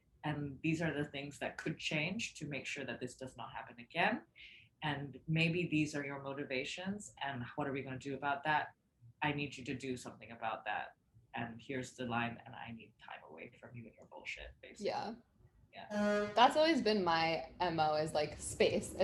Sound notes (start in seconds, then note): none